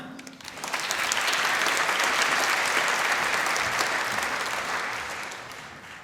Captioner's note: applause